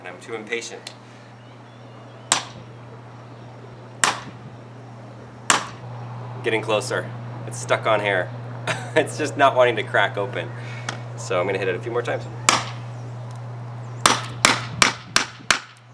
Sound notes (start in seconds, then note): 1.9 hammering; 8.6 chuckles; 12.5 hammering